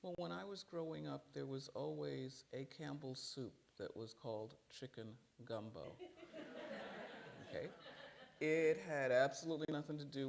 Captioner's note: laughter